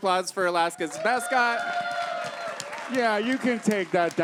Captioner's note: audience cheers